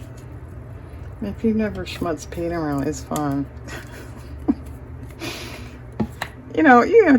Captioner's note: laughter